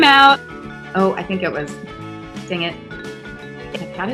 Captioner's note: murmurs